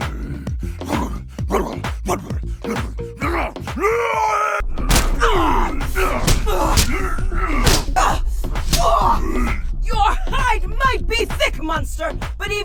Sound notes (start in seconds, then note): 0.3 Mon-Gor gibbering; 3.8 Mon-Gor roars; 4.7 smacks; 4.7 winces